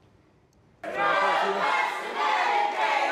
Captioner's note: shouting